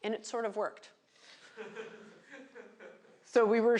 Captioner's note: laughter